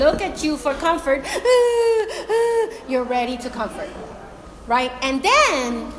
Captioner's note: imitates cry